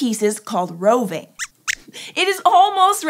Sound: squeaks squeaks

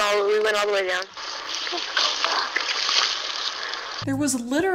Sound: leaves crunching

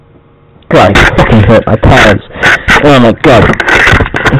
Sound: grabs the god damn mic again, a lot of noise

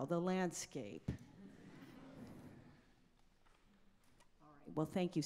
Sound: audience laughing

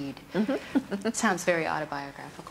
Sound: giggles

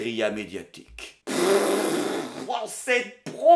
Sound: chortles

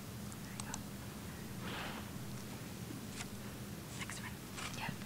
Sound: whispering

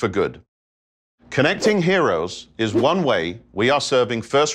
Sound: logo whooshing

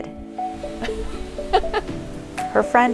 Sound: laughing

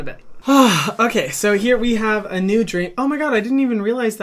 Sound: sighing

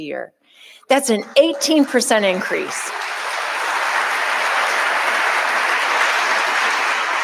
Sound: audience applauding

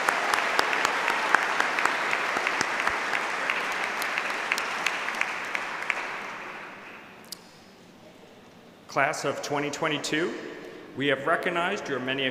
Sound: applause

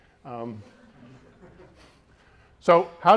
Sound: audience members laughing

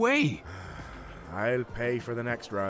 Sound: sighs

